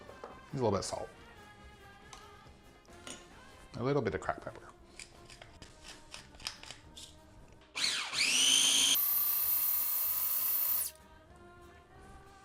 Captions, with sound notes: Need a little bit of salt, and a little bit of cracked pepper. (pepper cracking) (processor whirring)